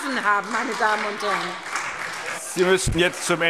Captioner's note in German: Beifall